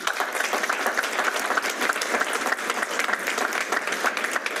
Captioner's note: applause